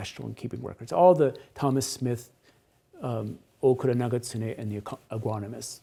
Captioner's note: speaks Japanese